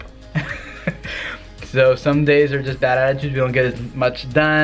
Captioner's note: laughs